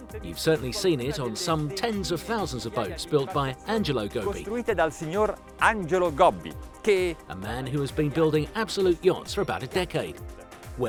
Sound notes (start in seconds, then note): 4.6 speaks Italian